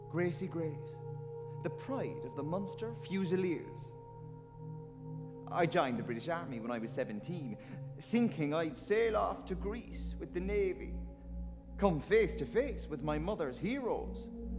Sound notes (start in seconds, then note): none